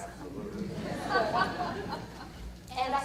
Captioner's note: audience laughter